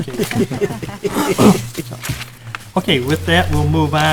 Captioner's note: laughing